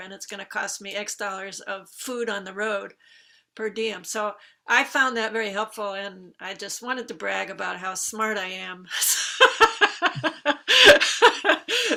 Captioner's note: laughs